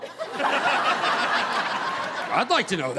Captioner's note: audience laughing